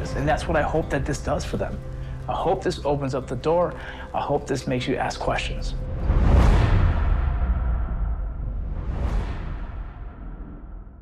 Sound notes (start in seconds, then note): 5.9 whoosh